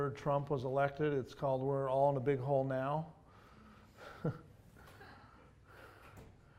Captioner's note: laughs